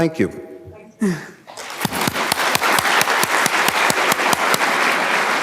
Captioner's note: audience applauding